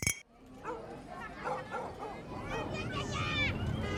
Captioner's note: SFX-street and neighborhood noise